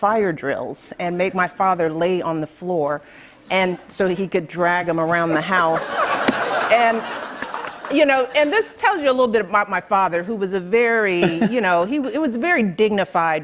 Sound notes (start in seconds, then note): 5.0 laughter